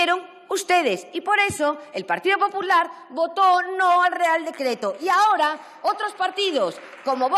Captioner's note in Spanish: aplausos